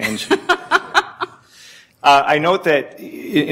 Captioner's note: laughing